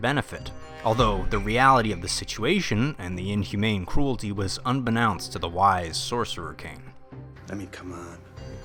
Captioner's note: sus Among Us audio